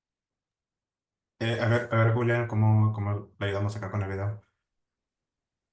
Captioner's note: speaking Spanish